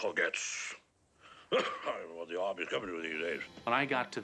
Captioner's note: muttering